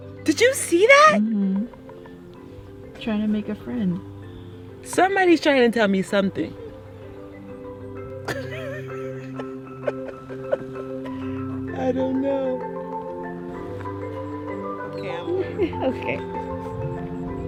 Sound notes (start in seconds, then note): 8.2 laughs; 15.0 upbeat music